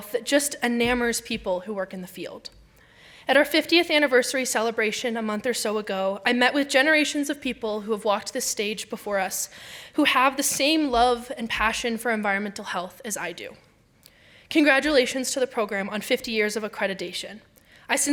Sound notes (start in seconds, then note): none